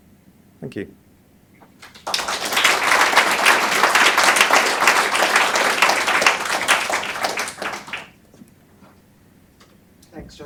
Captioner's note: applause